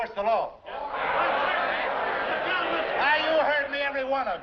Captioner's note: shouting and clamoring